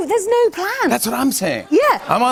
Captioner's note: laughter